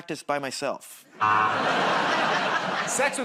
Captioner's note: laughter, buzzer